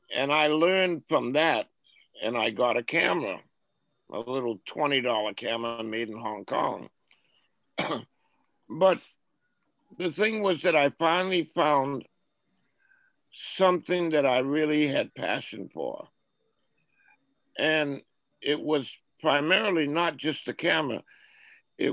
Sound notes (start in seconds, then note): 7.7 coughs